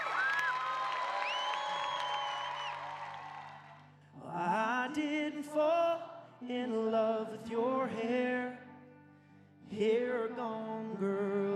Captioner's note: cheers and Applause